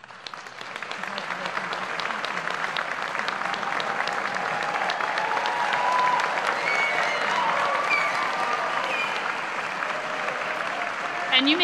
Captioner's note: applause and Cheers